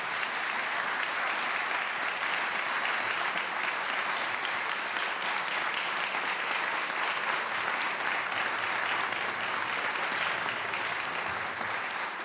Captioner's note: applause